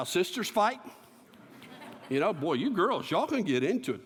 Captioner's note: laughter